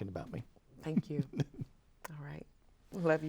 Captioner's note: chuckles